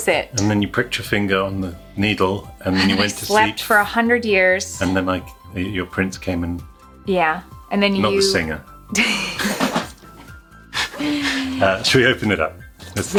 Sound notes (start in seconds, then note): 9.2 both chuckling